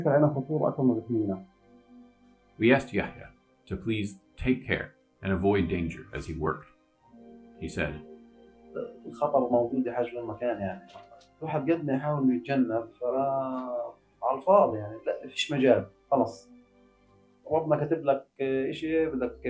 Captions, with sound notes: We asked Yahya to please take care and avoid danger as he worked. He said, [NON-ENGLISH].